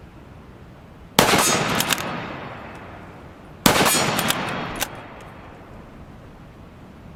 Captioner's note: gun fire hitting metal